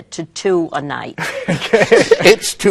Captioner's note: laughing